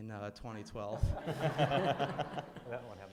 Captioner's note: laughter